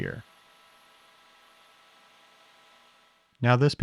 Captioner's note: lathe whirring